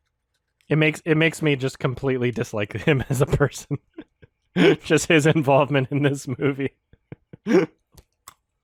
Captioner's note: chuckles throughout